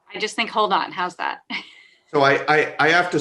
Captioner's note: laughs